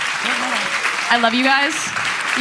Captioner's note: applause